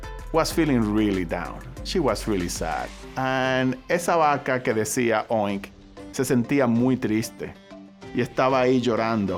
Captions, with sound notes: She was really sad, and (speaking Spanish)